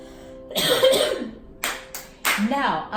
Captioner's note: coughs, claps hands